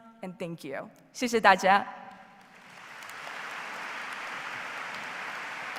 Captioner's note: speaks foreign language